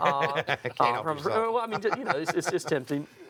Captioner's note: laughing